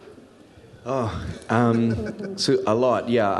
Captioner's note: laughs